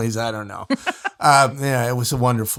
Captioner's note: laughs